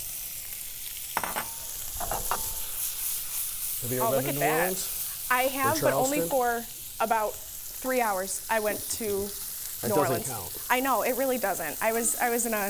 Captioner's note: food sizzling